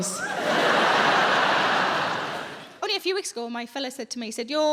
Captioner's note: audience laughs